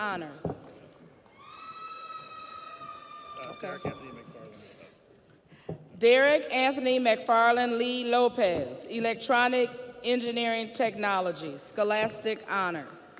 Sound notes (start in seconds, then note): 3.0 audience applauds; 3.0 audience cheers